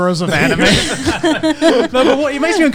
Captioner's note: all laughing